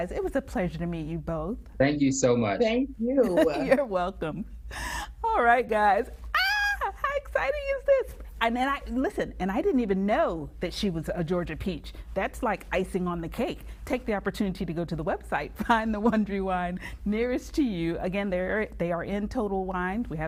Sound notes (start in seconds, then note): 6.4 screams